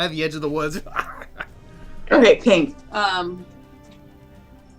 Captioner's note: laughter